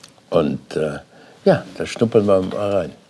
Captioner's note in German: none